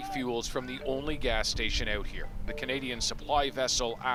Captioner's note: indistinct chatter